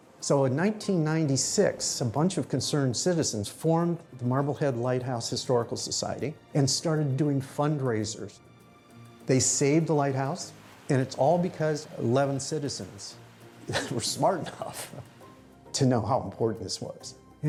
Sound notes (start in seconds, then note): 13.6 chuckling